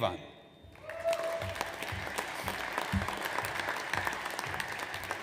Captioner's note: audience applauds